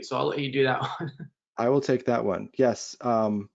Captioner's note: laughs